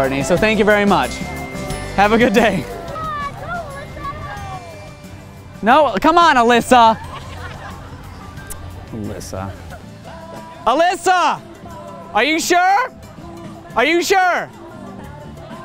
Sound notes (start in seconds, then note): 10.5 shouting